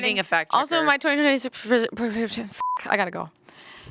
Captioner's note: beep